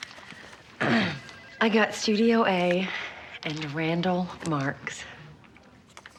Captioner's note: clears throat